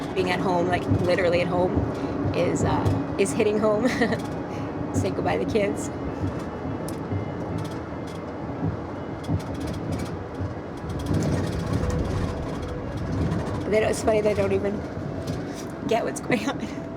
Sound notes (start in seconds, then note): 7.8 car engine rumbling